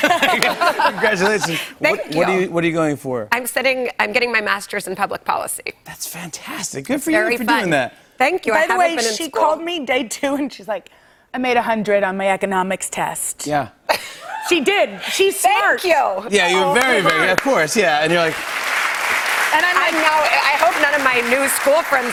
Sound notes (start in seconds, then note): 12.9 cheers; 16.7 applause